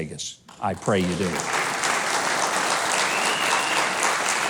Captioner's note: crowd claps